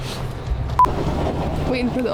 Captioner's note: sharp beep